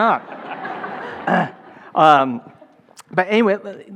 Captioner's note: laughing